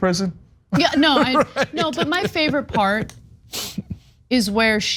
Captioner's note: laugh